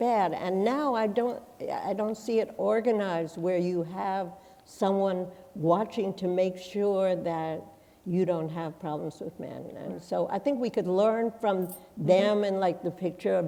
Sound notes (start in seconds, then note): none